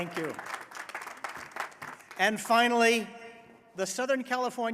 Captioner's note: applause